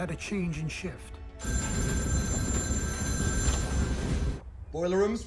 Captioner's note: phone ringing